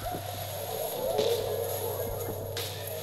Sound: footsteps Fade Away

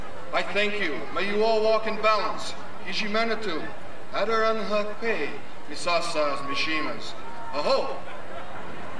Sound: speaking in foreign language

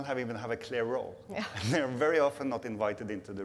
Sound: laughs

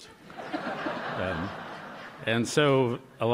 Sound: laughter

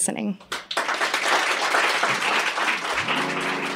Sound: applause

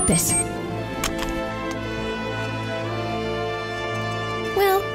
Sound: clicking

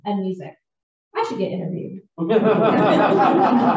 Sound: laughter

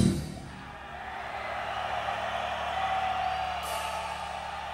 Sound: audience cheering

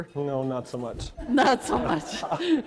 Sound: audience laughter

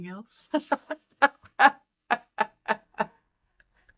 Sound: laughter

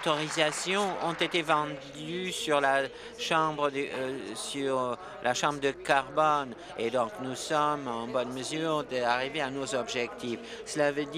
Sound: applause

